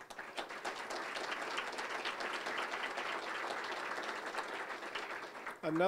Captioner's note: applause